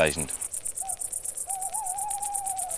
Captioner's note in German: Ein Käuzchen ruft